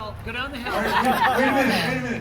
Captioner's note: laughter